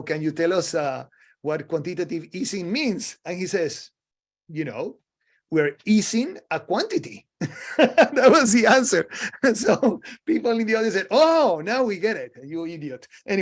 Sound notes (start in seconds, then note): 7.5 laughing